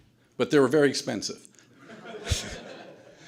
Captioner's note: audience laughter